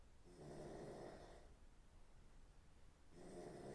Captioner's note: Phil snoring